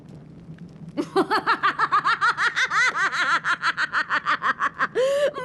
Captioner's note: laughter